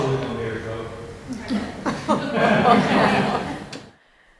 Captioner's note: audience laughs